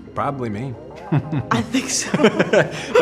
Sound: both laugh

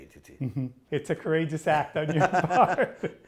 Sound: both laughing

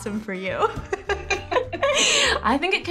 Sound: both laughing

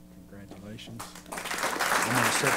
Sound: applause

